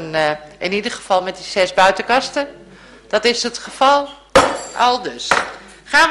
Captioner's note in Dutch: voorzitter klopt met hamer